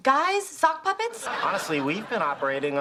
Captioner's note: audience laughing